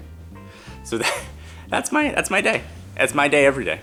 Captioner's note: laughs